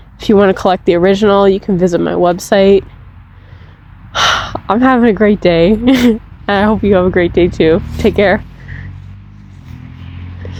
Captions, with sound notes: If you want to collect the original, you can visit my website *happy sigh* I'm having a great day and I hope you have a great day, too. Take care!